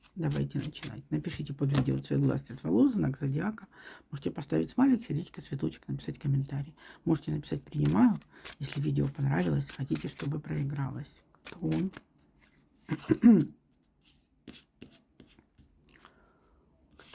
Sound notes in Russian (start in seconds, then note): 12.9 откашливается